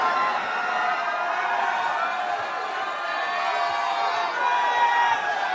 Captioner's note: crowd Cheering